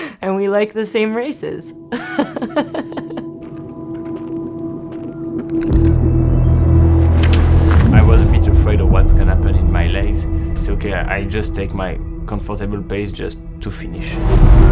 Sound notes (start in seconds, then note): 0.0 laughs; 1.9 laughs; 3.7 dramatic music